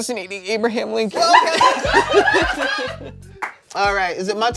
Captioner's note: everyone laughs